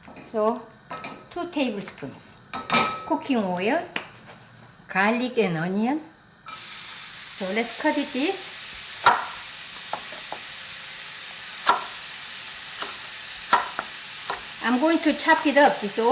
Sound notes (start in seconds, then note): 6.6 food sizzling